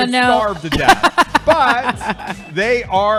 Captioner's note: laughing